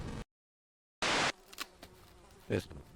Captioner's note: electronic interference buzzing; glitch sound